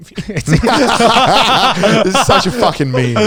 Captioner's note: all laughing